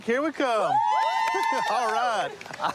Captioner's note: cheering